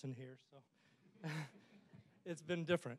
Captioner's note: all chuckling